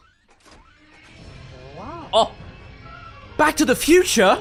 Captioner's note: Delorean SFX